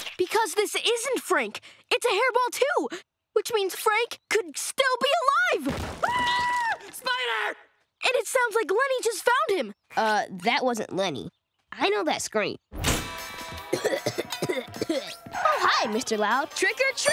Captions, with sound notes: Because this isn't Frank, it's a hairball, too, which means Frank could still be alive! [screaming] Spider! And it sounds like Leni just found him. Uh, that wasn't Leni. I know that scream. [coughing] Oh, hi, Mr. Loud. Trick or--